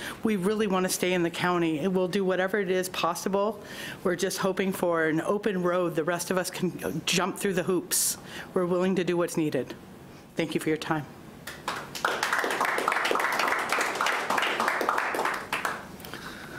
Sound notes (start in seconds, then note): 11.4 clapping